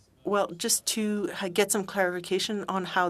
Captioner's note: speaking French